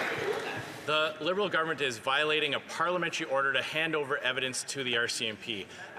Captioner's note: some Applause